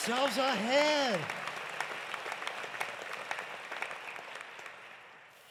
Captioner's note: applause continues